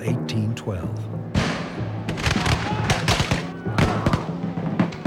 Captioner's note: rifles Fire